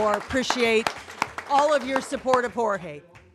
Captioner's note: applause